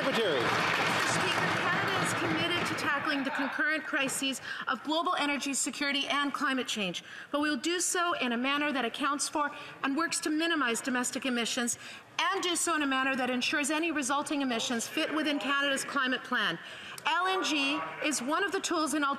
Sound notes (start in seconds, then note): 0.0 applause